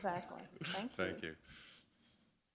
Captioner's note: chuckle